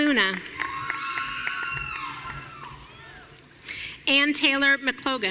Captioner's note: audience cheering